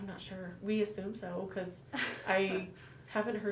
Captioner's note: laughing